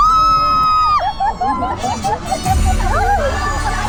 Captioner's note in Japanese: 叫び声